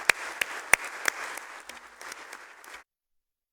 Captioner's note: applause